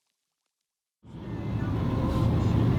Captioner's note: none